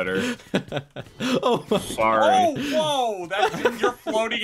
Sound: bunch of laughter

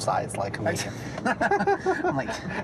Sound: laughing

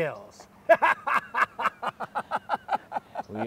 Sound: laughs

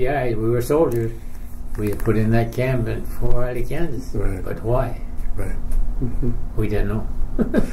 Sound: chuckle

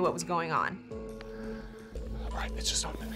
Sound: whispering

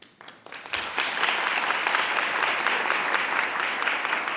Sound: audience applauds

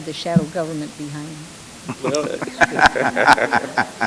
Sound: laughter

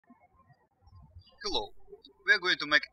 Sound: birds chirping

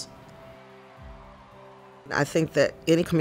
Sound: crowd cheering

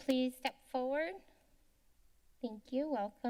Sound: silence

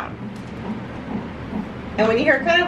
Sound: heartbeat thuds repeatedly

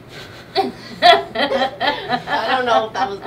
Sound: laughing

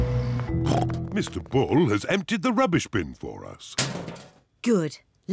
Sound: snorts

